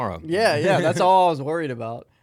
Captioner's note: laughing